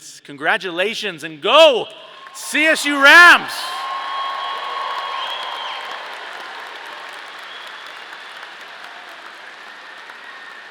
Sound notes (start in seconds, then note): 3.7 audience applauding; 5.0 audience cheering